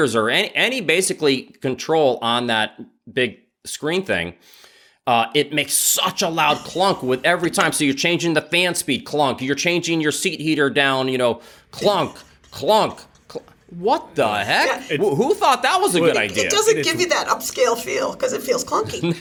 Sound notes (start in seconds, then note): 11.8 laughs